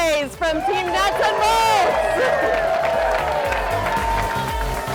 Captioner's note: crowd cheering and clapping